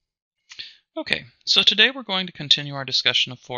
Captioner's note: voiceover